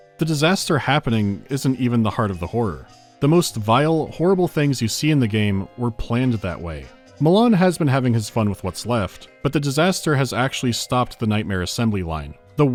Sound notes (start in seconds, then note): none